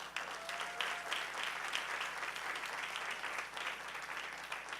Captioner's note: audience cheering